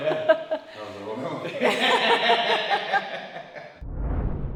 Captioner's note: laugh